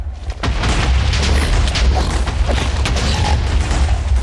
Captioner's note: snorting